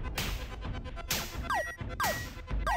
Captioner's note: beeping